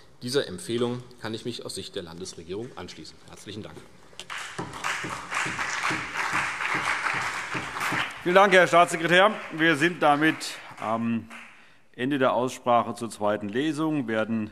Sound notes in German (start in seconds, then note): 4.2 Beifall CDU, BÜNDNIS 90/DIE GRÜNEN und Minister Michael Boddenberg